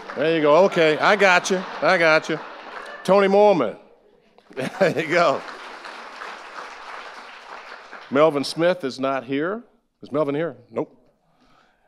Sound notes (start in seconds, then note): 4.4 chuckling; 4.5 audience applauding